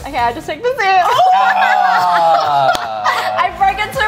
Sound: laughing

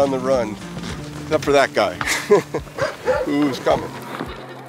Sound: chuckles

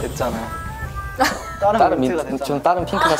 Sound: lolololol

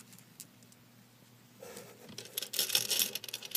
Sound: laughs quietly

